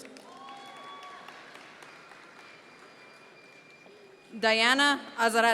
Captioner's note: audience members cheer